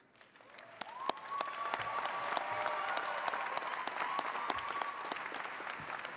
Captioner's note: attendees cheering and clapping